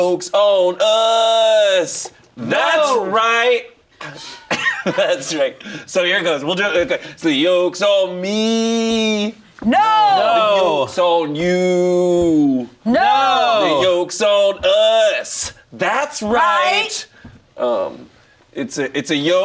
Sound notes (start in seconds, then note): 4.0 laughs